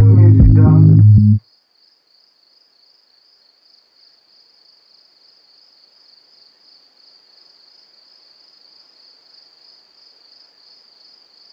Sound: crickets

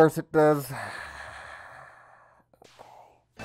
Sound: long exhale

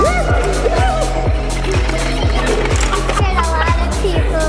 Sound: screams

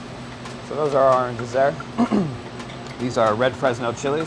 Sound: clearing throat

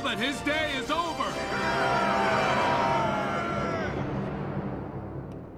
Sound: cheering

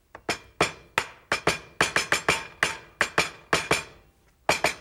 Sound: knife hitting on the table

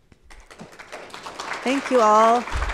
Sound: audience applauds

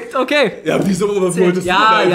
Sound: laughs

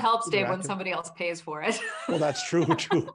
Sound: laughing

